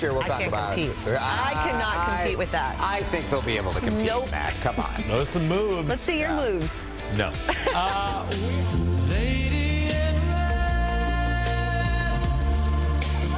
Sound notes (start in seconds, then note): 7.3 laughs